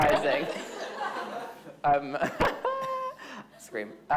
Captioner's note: audience laughing